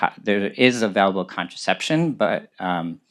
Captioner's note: none